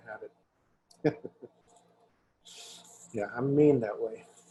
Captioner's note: chuckles